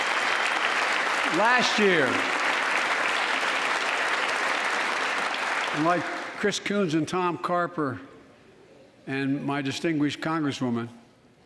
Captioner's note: applause